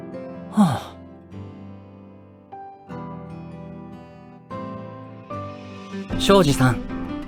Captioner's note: sigh